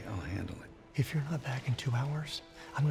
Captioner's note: whispers